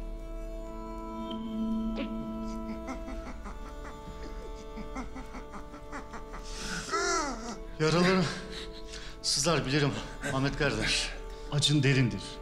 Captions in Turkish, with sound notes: (Kasılma sesi) Yaraların sızlar bilirim Ahmet gardaş, acın derindir.